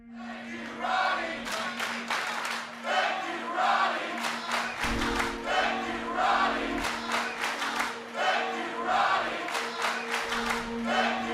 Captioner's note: fans chanting